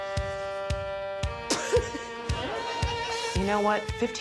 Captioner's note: coughs